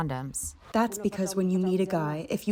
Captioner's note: through translator